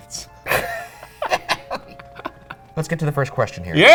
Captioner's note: both laugh